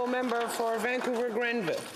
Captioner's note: applause